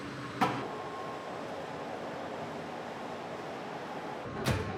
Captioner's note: machinery humming